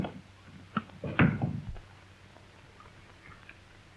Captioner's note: door closes